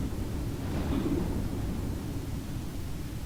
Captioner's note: thunder and strong wind